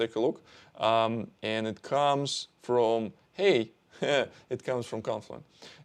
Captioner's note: chuckles